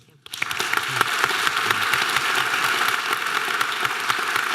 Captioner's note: audience applause